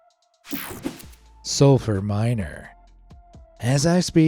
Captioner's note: screen whooshing